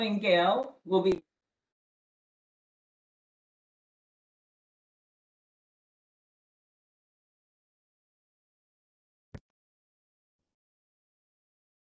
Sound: brief audio interruption

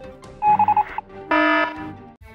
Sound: alarm; morse code

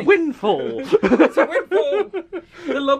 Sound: laughs

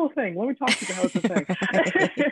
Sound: woman laughing

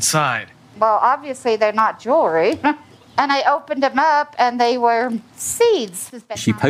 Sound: chuckles

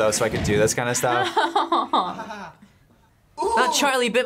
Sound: laughs

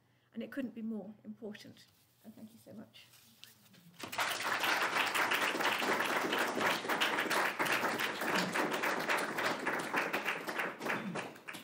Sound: applause

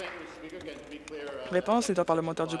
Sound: applause

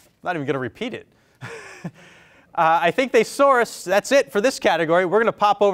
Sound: laughs

